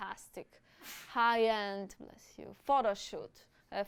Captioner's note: sneezes